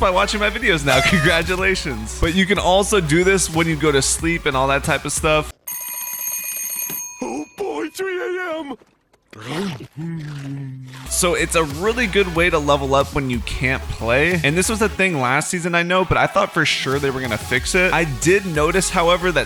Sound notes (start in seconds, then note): 5.6 alarm clock; 8.5 munches